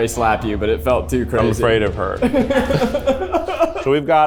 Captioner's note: laughs